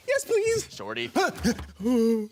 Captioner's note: grunting